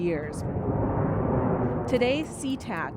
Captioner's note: airplane engine roars